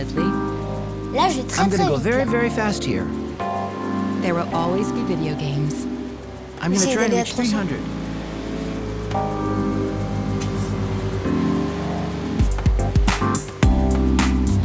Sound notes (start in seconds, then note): 1.7 speaking in French; 9.0 SFX: car engine revving